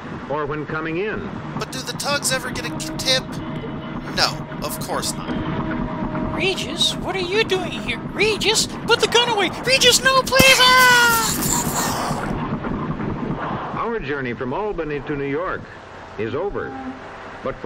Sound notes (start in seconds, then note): 10.4 Starch makes gunshot sounds